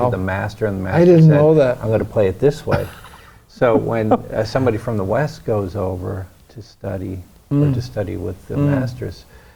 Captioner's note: laughs